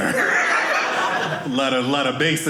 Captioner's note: audience laughing